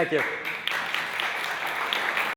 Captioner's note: audience applauding